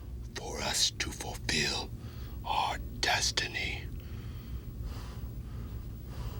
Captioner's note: breathes heavily